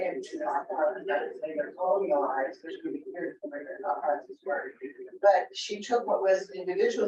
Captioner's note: speaks distortedly